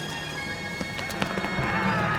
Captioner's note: running footsteps